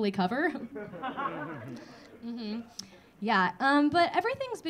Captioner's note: audience laughing